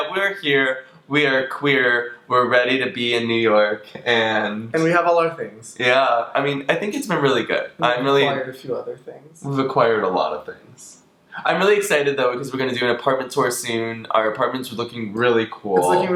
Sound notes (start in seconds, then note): none